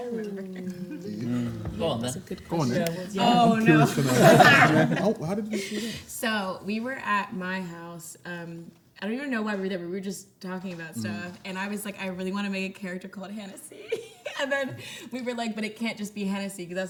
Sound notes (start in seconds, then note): 3.3 everyone laughs